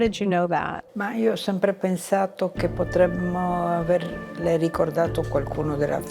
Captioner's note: speaking in foreign language